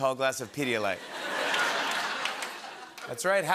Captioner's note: laughter